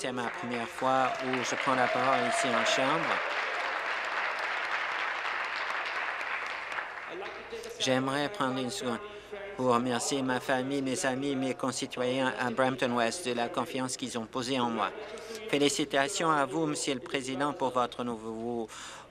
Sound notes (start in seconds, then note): 3.7 applause